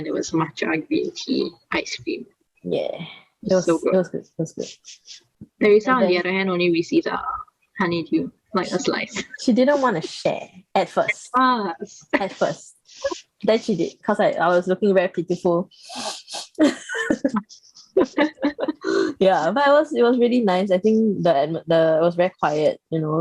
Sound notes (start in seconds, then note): 15.8 sniffles